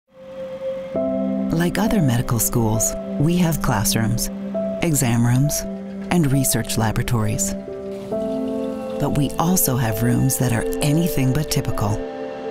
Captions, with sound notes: - [Voiceover] Like other medical schools, we have classrooms, exam rooms, and research laboratories, but we also have rooms that are anything but typical